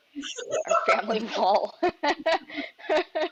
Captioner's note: laughs; giggles